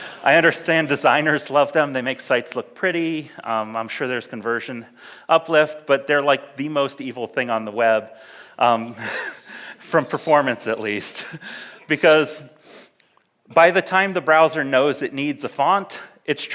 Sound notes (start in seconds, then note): 0.0 audience laughs; 0.0 laughs; 8.9 laughs